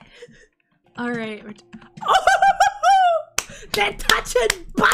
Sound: claps

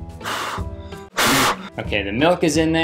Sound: breath blowing

